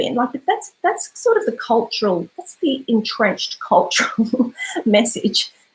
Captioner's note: laughs